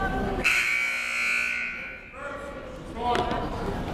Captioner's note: buzzer blares